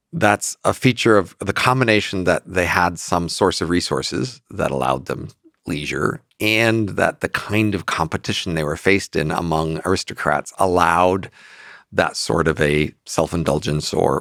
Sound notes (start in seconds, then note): none